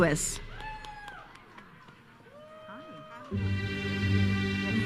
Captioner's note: audience cheers and applauds